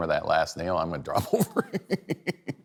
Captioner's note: laughs